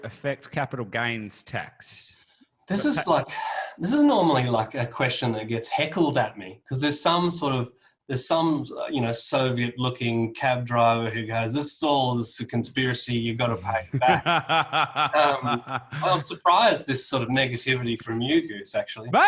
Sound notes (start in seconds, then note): 13.6 laughs